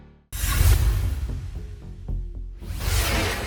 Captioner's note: scene swooshing